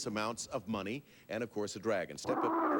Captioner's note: dragon roars